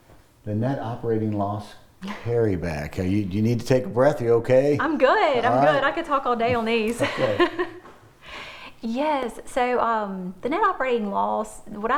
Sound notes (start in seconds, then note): 6.5 laughs